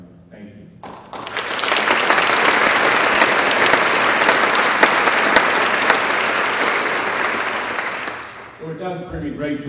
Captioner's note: applause